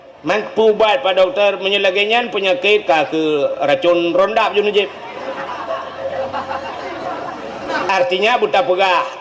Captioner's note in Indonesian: tertawa